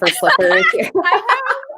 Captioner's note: laughs